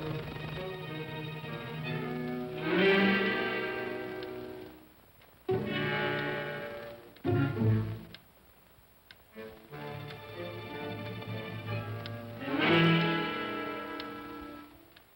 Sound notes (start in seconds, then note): 0.0 ominous whimsical music; 2.5 clock ticking; 2.5 ominous whimsical music